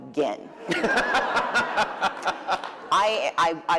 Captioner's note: laughter